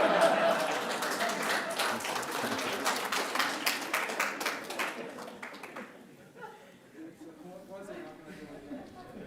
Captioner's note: applause